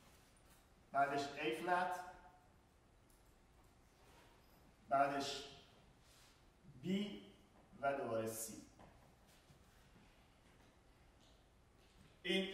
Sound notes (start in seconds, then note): 0.0 speaking in farsi